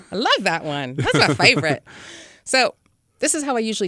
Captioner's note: laughs